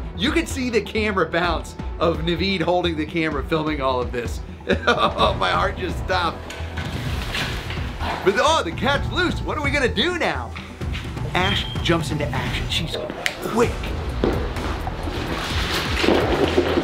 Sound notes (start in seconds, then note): 4.6 laughs; 14.1 intense music